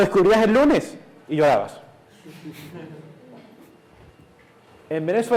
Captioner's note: class laughs